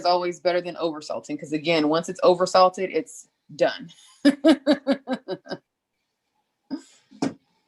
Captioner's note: laughs